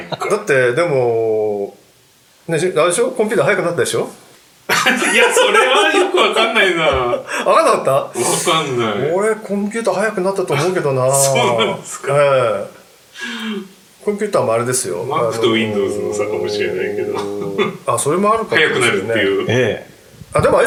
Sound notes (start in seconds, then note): 8.0 laughing